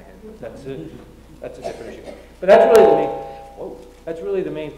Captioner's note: feedback noise